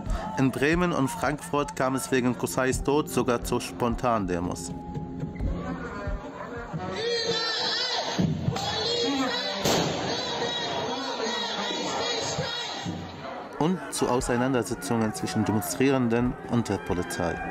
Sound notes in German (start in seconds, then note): 4.8 Angespannte Musik; 6.9 mehrere brüllen